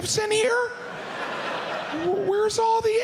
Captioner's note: audience laughs